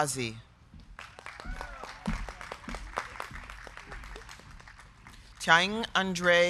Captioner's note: crowd clapping; crowd cheering